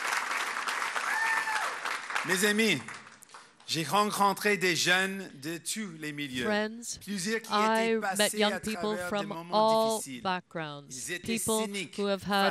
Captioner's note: applause